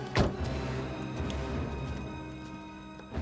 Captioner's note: door thuds